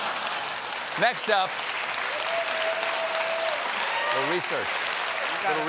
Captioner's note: laughter; applause